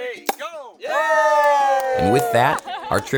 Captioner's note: people cheering